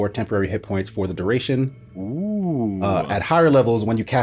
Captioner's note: says OoOoOoOoh